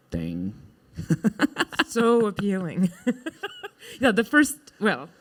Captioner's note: chuckling